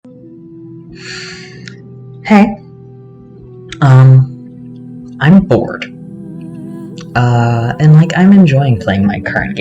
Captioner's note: sigh